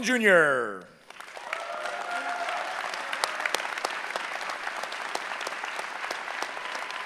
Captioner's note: cheering